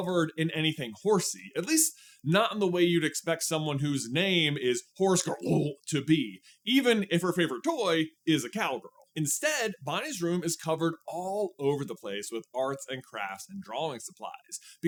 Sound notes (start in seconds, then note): 5.3 gutteral sound